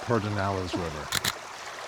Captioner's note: click!